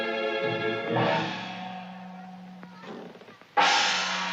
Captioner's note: A Gong Sounds